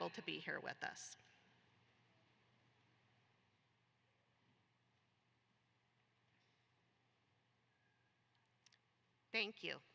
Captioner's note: moment of silence